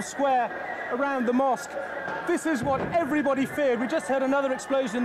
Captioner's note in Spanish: explosión distante